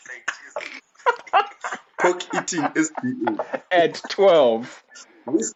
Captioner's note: sneers